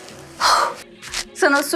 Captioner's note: sigh